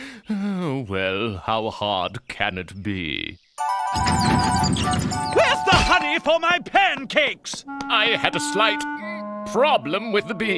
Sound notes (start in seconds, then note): none